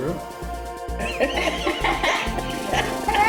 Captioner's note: they laugh